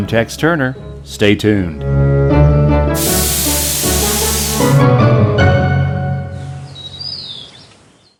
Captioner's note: birds Chirping